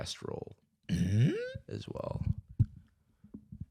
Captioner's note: inquisitive noise